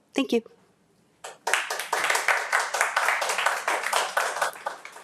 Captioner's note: attendees applauding